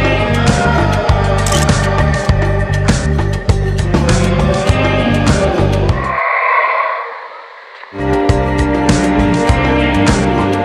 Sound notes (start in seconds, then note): 1.4 photo click; 6.1 howler monkey howling